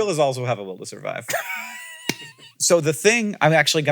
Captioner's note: laughs